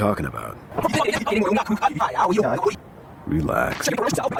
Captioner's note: Yuyanese